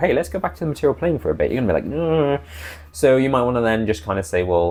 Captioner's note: groan